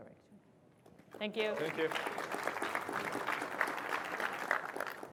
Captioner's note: ap plause